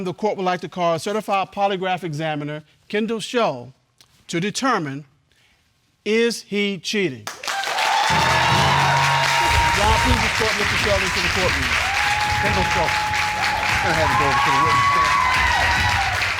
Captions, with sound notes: At this time, the court would like to call certified polygraph examiner Kendall Shull to determine is he cheating? (AUDIENCE APPLAUDING) Ron, please escort Mr. Shull into the courtroom. Kendall Shull, go ahead...